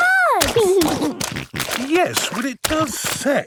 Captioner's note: snorting